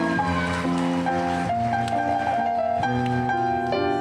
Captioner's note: cheering